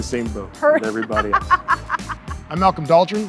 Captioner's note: laughs